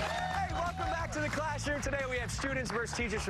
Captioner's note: cheers and applause